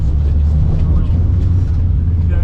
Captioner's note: engine rumbling